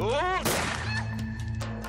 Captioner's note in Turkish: Kurşun sesi